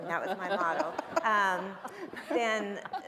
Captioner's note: panel and audience laughing